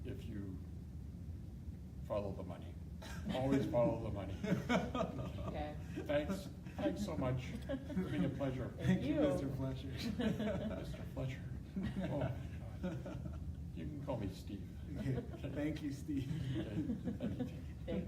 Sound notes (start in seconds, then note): 4.4 laughing